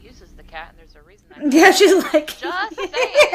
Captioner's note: laughter